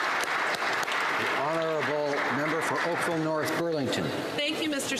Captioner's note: applause